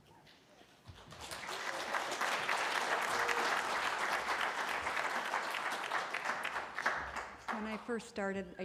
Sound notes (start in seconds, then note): 0.9 applause